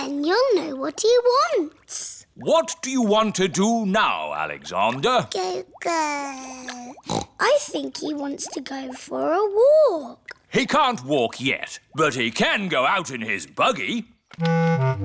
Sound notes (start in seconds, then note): 5.6 babbles; 7.0 snorts